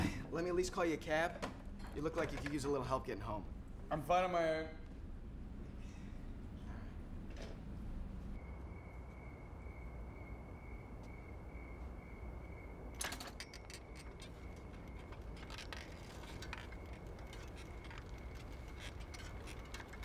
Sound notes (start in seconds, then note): 9.3 crickets chirping